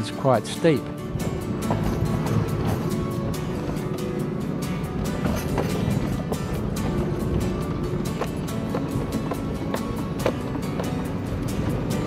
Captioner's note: music background and vehicle sounds